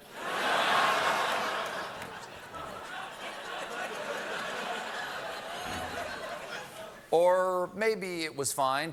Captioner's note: laughter